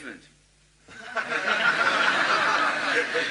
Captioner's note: laughter